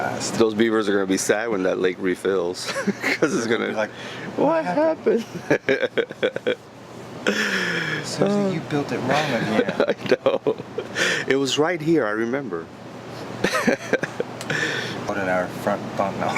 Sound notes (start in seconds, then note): 2.6 chuckling; 5.2 laughing; 13.4 laughing